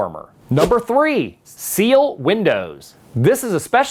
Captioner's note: letter whoosh